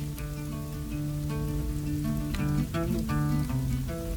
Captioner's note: fire crackling